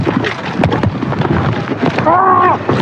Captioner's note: grurunting